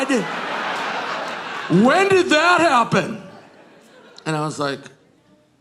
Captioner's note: audience laughing